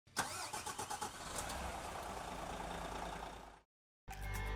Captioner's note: engine roaring; upbeat music